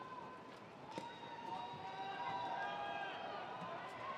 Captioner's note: attendees cheering